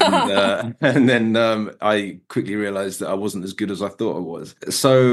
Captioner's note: laughing